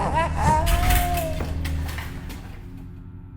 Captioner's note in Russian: Лязг от падения макета мозга